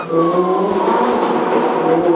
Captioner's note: pop and bang